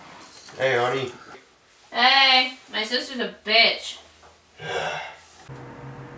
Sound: sighs

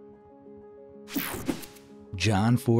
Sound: graphic whooshing

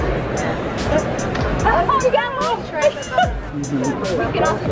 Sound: laughing

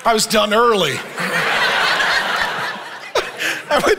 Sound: congregation laughing

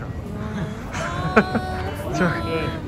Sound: mocking; laughing

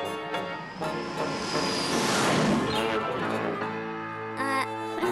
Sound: boom!

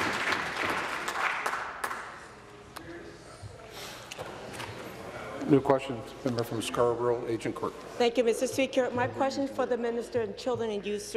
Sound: applause

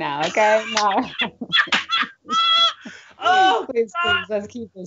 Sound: both laughing

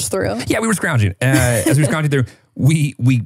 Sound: chuckles

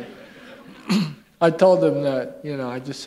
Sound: laughter

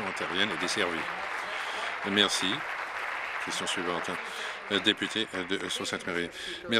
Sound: applause

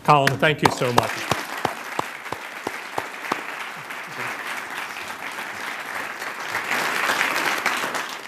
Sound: applause

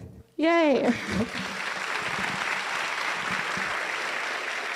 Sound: audience applauding

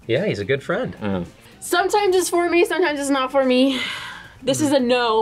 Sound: sighs

